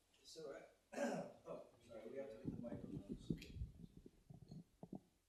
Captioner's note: indistinct chatters